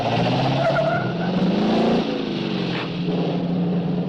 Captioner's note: dramatic music; tires squealing